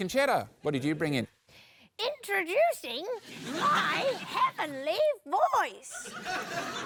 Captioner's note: shrill voice; laughter